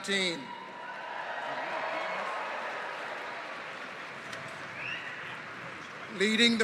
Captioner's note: cheering